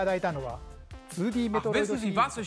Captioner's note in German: Er spricht japanisch